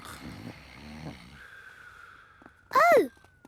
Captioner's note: snoring